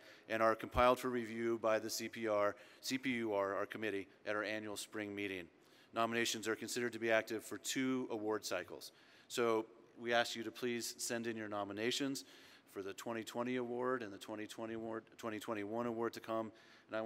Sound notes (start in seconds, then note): none